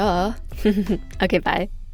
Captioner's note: giggles